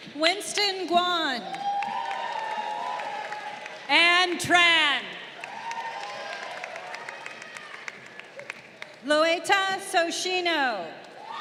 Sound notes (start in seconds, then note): 1.3 crowd cheering